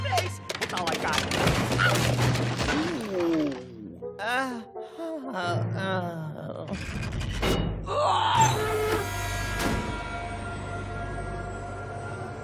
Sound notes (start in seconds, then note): 5.2 groaning